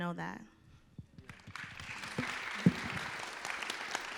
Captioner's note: applause